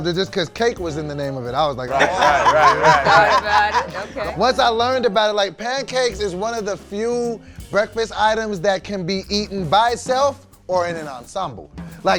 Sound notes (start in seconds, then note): 1.9 laughter